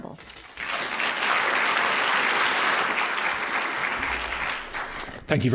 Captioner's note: applause